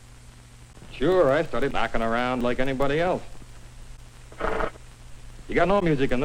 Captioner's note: blows air forwards then backwards